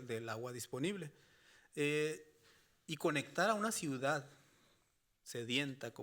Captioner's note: speaking Spanish continues